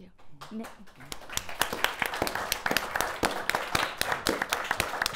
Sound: audience applauding

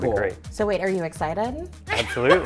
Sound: laughs

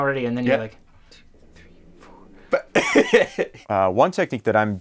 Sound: whispering; laughs

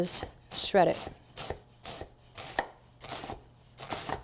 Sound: cabbage slicing

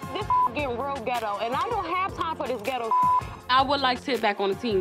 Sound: beep; beep

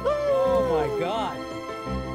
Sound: laughs

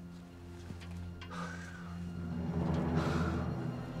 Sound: sighs

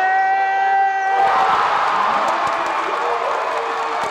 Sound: crowd cheers

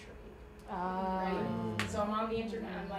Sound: groaning

